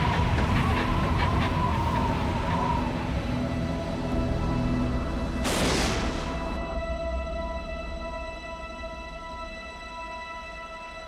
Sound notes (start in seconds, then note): 5.4 lightning zaps